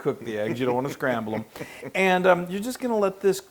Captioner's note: laugh